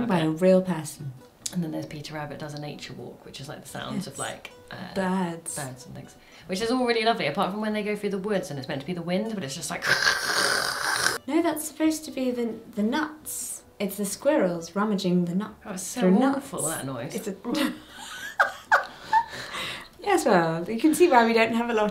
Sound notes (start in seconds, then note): 9.8 hisses; 17.4 laughs